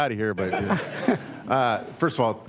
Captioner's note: laughter